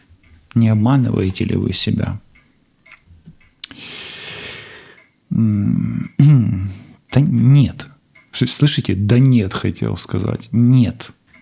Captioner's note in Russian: вздыхает; откашливается